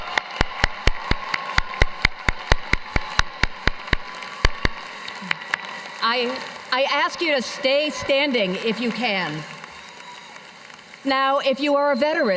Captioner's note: cheers and applause